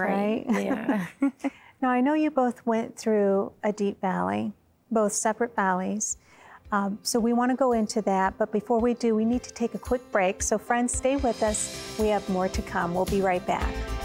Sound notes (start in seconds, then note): 0.2 giggling